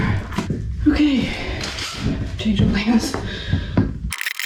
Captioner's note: screwdriver buzzes